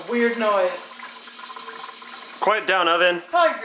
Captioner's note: loud sizzling sounds